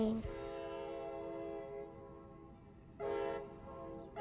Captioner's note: train horn